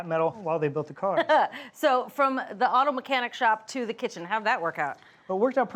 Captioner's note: chuckles